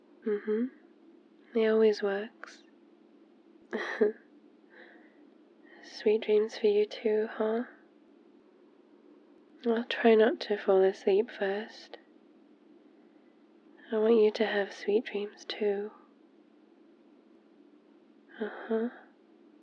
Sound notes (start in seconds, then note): 3.7 laughs